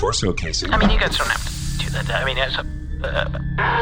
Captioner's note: mechanical hissing and whirring